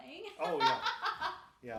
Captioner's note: laughing